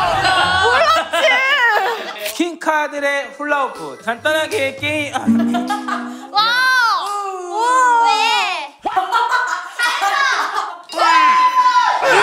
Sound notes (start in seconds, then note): 5.3 laughing; 6.9 jeering